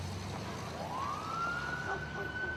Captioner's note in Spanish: sirena